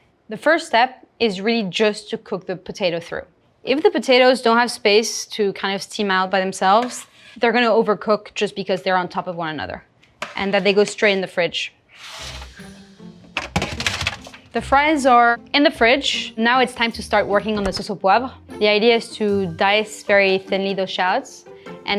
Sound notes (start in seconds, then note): 13.3 tray thudding